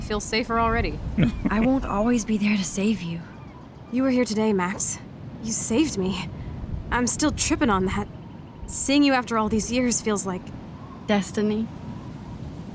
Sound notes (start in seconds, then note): 1.1 laughs